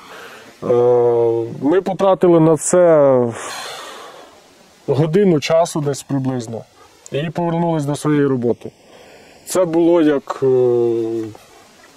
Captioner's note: sound of heavy breathing